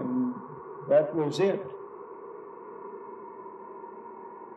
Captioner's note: wind howls